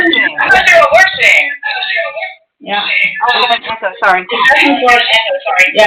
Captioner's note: feedback noise